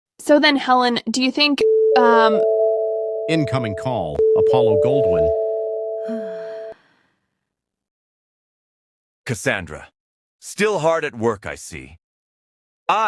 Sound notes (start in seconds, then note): 1.6 phone rings; 6.0 sigh